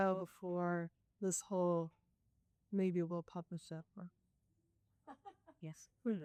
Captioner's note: laughs